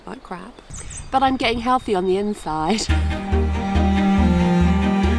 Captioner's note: giggle